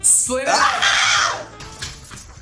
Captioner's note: yelling